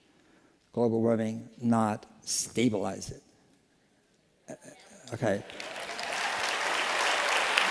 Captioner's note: applause